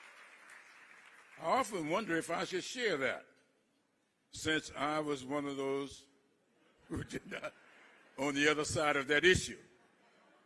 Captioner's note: applause